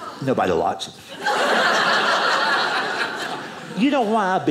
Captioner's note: audience laughing